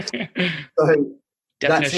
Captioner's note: laughs